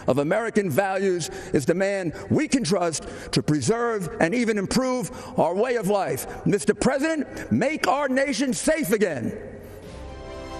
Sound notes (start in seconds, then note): none